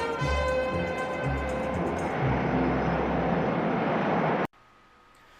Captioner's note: jet engine